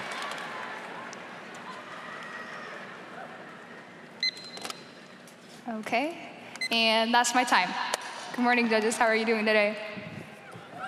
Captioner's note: machine beeping; crowd cheering